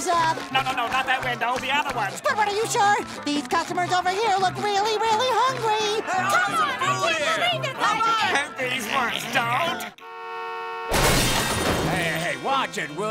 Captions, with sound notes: No, no, no! Not that window! The other one! Squidward, are you sure?! These customers over here look really, really hungry! [yelling] And these ones don't?! [honking] Hey, hey, hey, watch it, will ya?!